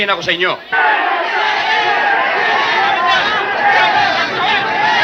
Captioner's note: speaking in foreign language; people clamoring